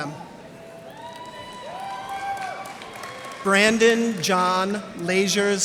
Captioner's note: cheers and applause